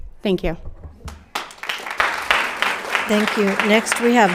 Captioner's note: applauds